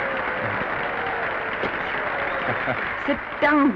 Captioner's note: applause